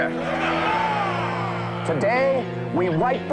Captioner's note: crowd Roars